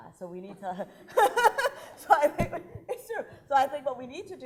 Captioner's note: laughing